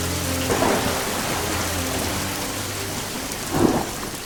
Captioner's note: thunder rolling